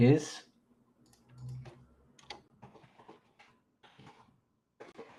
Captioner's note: keyboard clacking